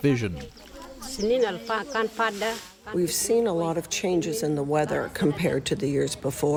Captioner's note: through translator